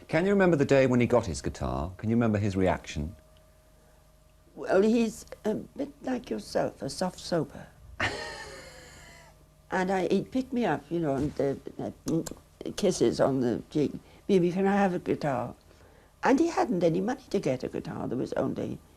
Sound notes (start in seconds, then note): 8.3 wheezes; 12.1 kissing noises